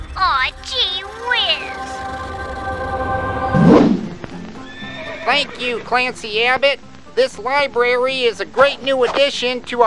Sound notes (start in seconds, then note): 3.3 swoosh